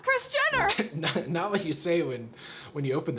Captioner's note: chuckles